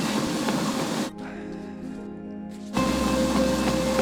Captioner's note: treadmill whirring loudly; Drew sighs; treadmill whirring loudly